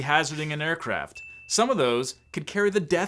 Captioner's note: bell chimes